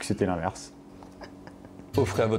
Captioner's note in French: rire étouffé